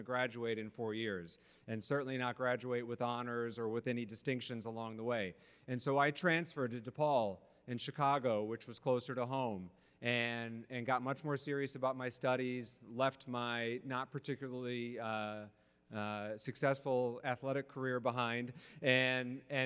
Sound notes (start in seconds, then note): none